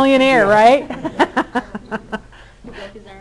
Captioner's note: all laughing